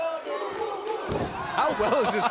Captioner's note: fans chanting